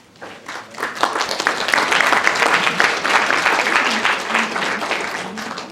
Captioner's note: applause